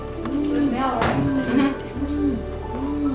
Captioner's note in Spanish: Arrullo de paloma; Charla del personal del hospital